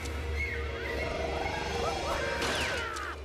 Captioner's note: screaming; growling